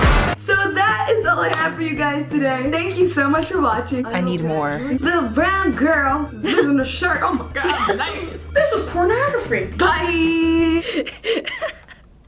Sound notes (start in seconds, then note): 6.3 giggling; 10.6 laughing uncontrollably